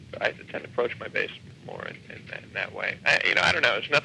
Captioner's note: none